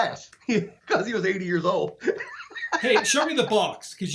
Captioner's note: laughing